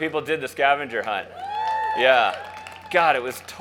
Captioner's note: crowd cheers